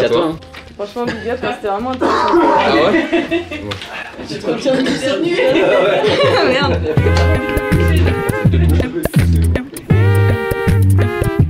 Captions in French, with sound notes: -Franchement, big up. C'était vraiment intéressant. -Tu te retiens de tousser ? -Ouais. (rires) -Merde !